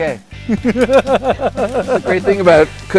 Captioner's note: laughing